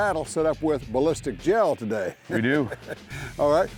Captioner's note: laughs